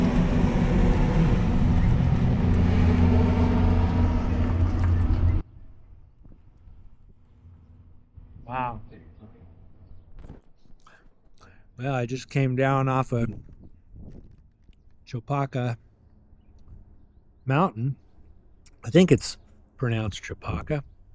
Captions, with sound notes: (engine revving) Wow. Well, I just came down off of Chupacah Mountain. I think it's pronounced Chupacah.